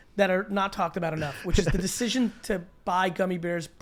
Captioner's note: laughs